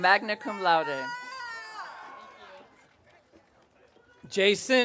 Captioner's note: audience cheering